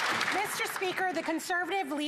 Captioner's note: some Applause